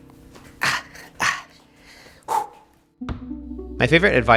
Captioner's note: groans then sighs